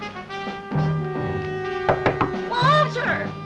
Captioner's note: knock On Door